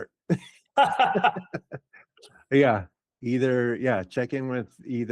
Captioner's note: laughing